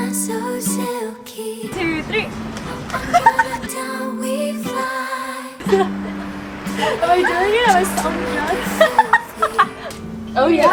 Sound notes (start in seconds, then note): 1.7 laughs